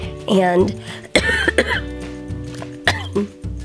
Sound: coughing

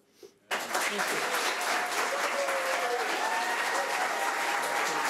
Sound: audience applauding

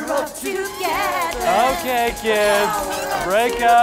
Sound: machine squealing

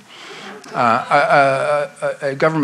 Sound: audience laughs

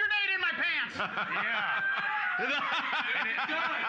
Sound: loudly laughing

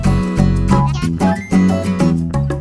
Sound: speaking animalese

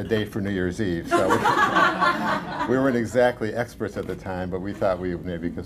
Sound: laughter

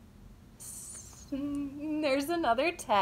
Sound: makes nervous noise

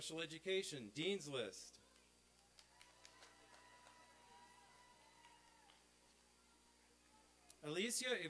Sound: applause and cheering

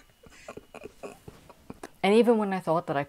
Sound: laughter

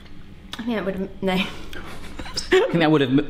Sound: laughing

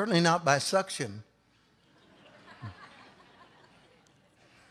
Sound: audience laughs

